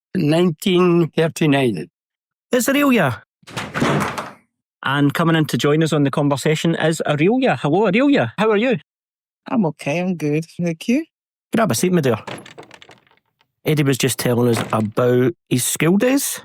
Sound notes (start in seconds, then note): 3.4 door closes